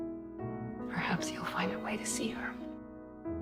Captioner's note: voiceover